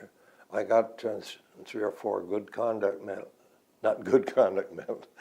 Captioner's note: laughs